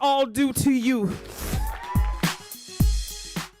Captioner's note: cheering